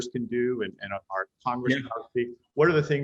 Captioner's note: audio glitch